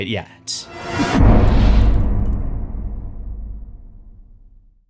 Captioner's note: impact